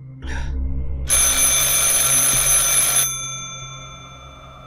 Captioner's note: phone rings